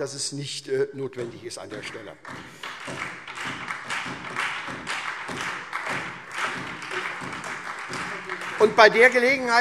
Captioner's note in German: Beifall SPD, Freie Demokraten und DIE LINKE